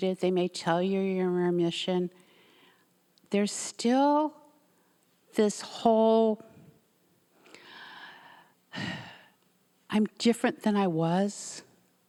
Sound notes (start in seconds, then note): 8.7 sighing